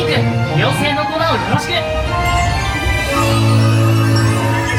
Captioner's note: Peter Pan speaking Japanese